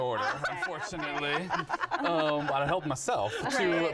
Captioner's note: all laugh